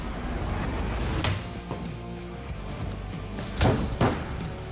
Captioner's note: chopping sound